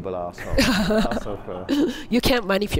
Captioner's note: laughing